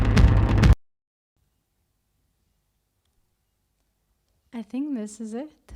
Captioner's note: audio cuts